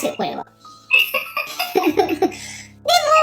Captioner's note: laughs